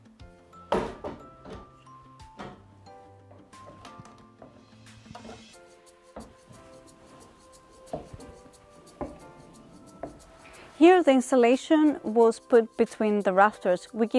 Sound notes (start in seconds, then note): 0.7 wooden ladder softly thuds; 4.1 footsteps get progressively louder